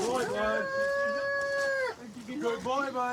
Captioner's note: wails